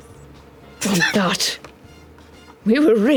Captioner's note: laughs